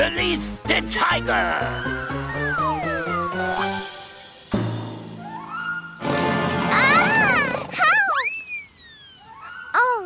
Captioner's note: tiger roars and children scream